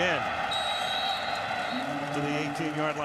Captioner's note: whistle blows